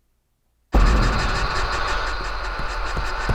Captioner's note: silence; static buzzing; heavy footsteps